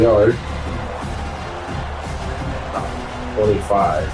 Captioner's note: crowd Noises